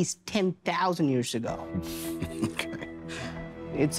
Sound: chuckles

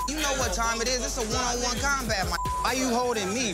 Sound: beep

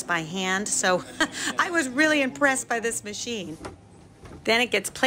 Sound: laughing

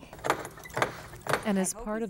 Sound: Josie knocks on clock

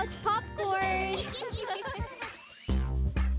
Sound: chuckling and laughing; music upbeats playing

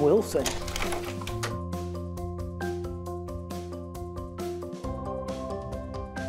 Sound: whimsical music; slide projector clicks

